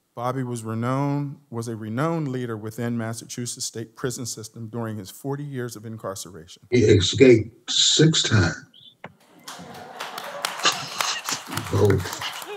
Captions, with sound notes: Bobby was a renowned leader within Massachusetts State Prison system during his 40 years of incarceration. He escaped six times. [APPLAUSE]